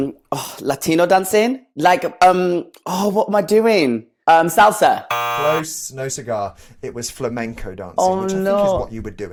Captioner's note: buzzer sounds